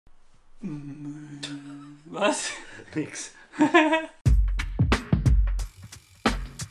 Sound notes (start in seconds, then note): 1.1 father laughs; 3.5 both laugh